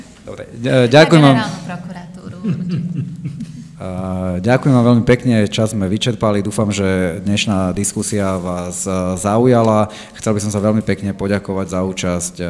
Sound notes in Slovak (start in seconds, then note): 2.3 smiech